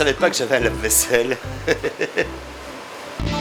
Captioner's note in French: rires